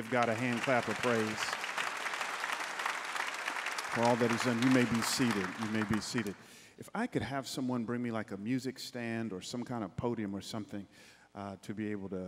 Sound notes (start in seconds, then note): 0.0 congregants applauding